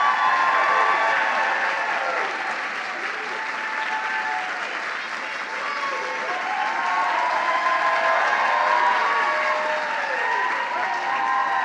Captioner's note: applause